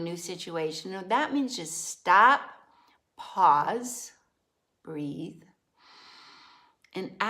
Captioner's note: inhales